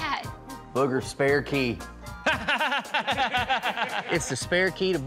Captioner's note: laughter